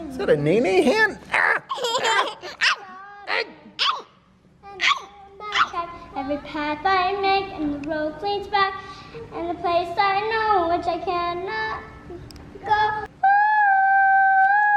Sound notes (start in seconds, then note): 1.3 laughing; 2.9 shouting